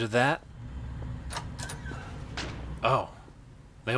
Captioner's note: door creaks open and slams